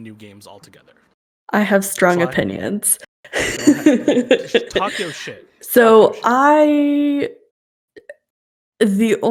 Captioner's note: laughs